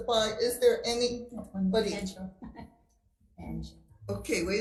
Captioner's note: laughs